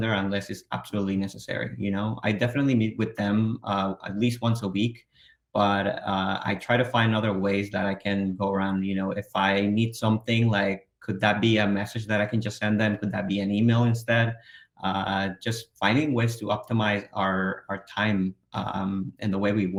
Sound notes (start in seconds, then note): none